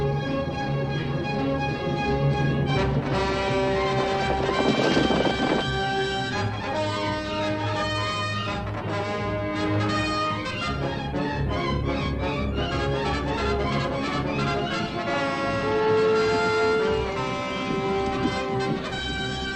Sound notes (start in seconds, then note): 1.1 horses galloping